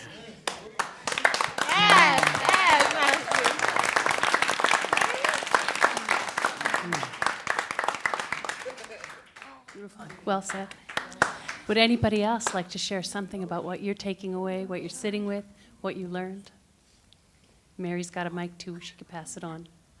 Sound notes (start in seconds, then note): 0.1 affirmative voices and applause; 3.1 applause